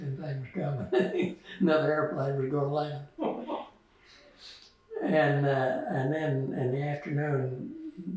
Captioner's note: laughs